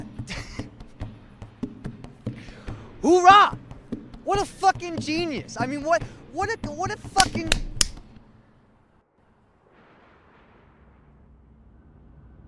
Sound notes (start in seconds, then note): 0.2 chuckles; 7.0 hand slaps rapidly; 9.9 wind blows